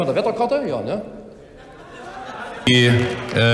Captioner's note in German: Heiterkeit bei Abgeordneten der SPD